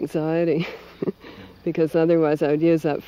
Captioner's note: laughs